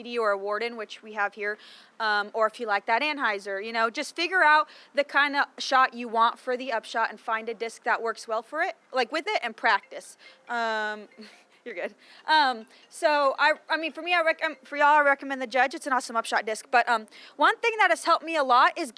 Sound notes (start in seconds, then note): 9.6 phone ringing; 11.8 laughing